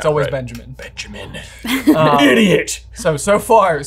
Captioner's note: laughing